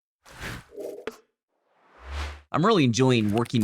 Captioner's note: screen whooshing